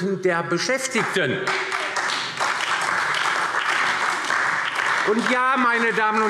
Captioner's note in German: Beifall DIE LINKE, SPD und Freie Demokraten